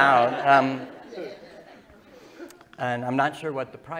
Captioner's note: laughter